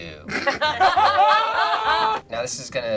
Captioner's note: group laughs